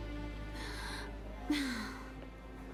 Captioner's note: sigh